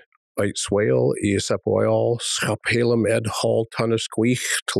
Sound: Hall speaks in hən̓q̓əmin̓əm̓

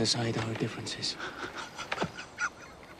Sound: laughs

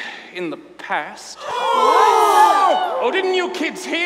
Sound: students gasp

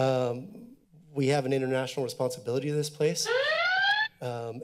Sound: buzzer

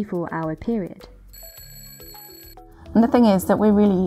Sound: alarm clock rings

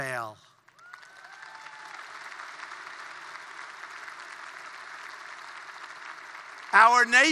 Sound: applause

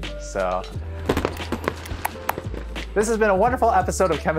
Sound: firecrackers bursting

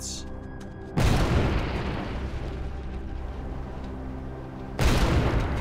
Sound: cannon shots exploding

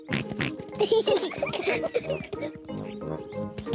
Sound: both giggle excitedly

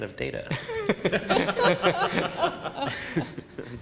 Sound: laughing

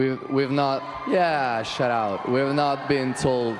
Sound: cheers and applause

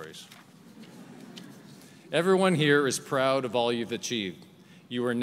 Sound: laughter

